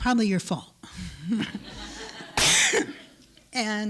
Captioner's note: laughter